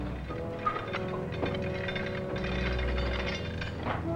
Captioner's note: chain clinks